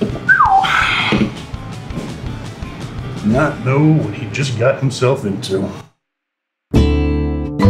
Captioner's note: whistles